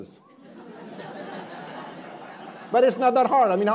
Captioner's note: attendees laughing